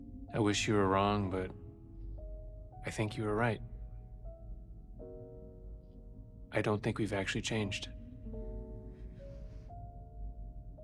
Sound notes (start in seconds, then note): none